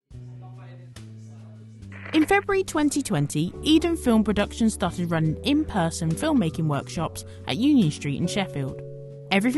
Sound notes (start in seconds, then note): 0.0 group chattering indistinctly